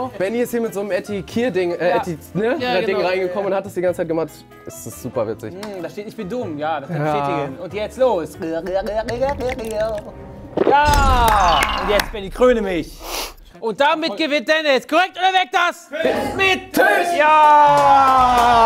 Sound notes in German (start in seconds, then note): 8.6 Gluckern, bedrohliche Klänge; 9.0 Schlucken